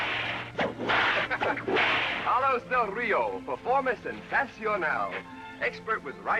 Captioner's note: laughs; spanish